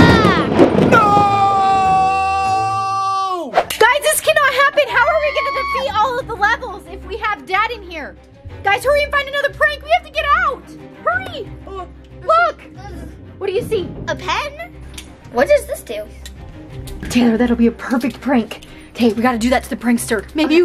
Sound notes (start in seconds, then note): 0.0 thunder rolls